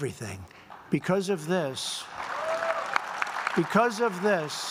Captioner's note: applause